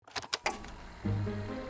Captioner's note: old TV powering on; playful orchestral music